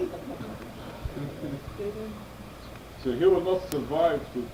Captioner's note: laughter